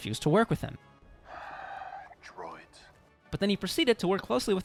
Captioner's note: sigh